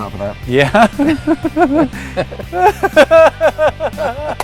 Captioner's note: laughing